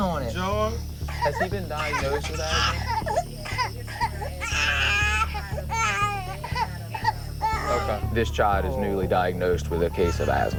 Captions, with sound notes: George? Has he been diagnosed with asthma. [coughing] [crying] OK. This child is newly diagnosed with a case of asthma.